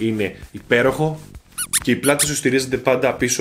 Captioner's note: squeeze sound